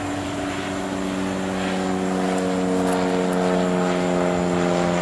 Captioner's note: airplane sound